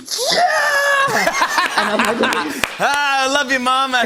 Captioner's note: laughter